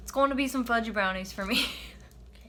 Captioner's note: laughs